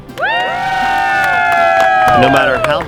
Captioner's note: cheering